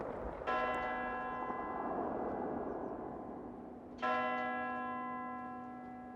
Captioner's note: bell tolling